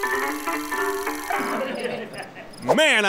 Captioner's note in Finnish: Rosvojen naurua